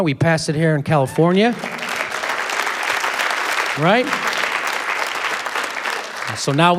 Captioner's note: applause